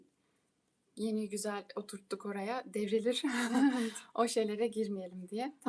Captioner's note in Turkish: kahkaha